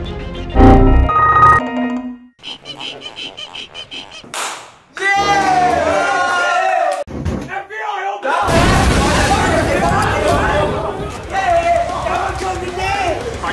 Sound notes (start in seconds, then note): 2.5 scratching; 4.3 hand clapped